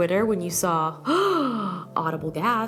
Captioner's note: gasps